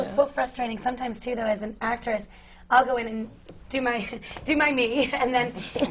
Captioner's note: laughs